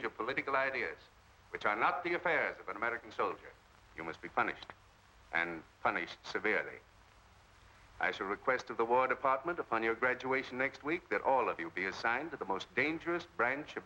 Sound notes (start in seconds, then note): none